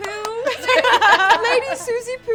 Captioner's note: applauds; all laughing